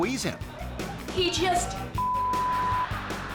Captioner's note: beep; audience laughing